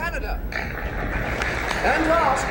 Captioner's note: crowd applauds